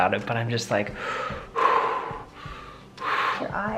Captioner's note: breathing deeply